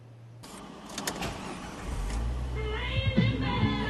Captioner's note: engine and stereo start up